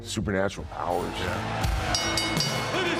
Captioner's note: bell dings